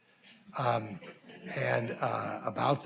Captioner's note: audience laughing